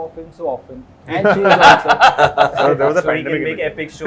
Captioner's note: laughs